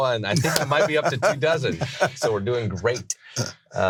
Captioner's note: laughs